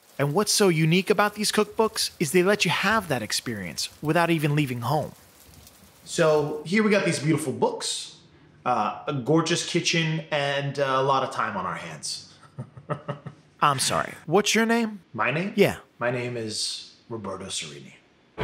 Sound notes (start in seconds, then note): 5.4 rain pattering; 12.4 chuckling